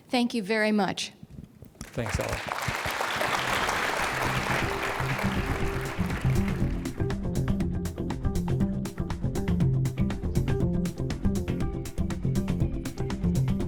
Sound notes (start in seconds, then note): 1.8 clapping; 3.4 mellow music